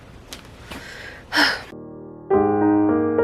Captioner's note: short sigh; gently uplifting piano music